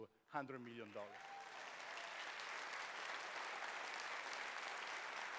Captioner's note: cheers, applause